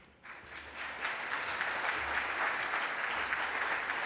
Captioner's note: audience clapping